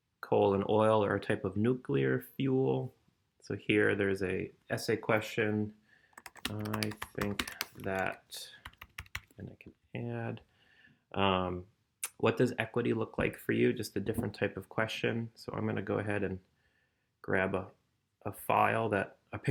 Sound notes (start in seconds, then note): 6.1 typing